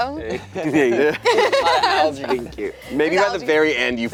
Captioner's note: laughing